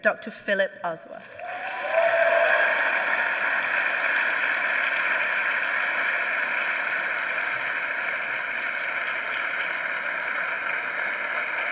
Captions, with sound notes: Dr. Philip Ozuah. (audience clapping) (audience cheering)